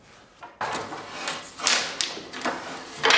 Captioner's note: soft rattling